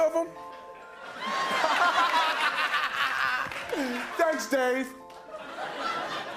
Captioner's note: laughing hysterically